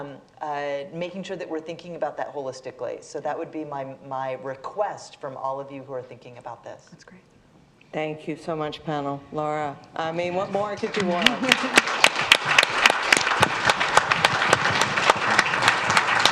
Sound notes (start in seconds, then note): 10.4 audience applauds